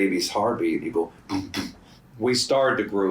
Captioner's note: mimics heartbeat